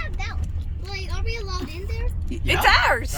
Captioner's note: children in background